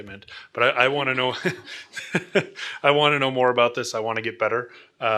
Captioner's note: laughs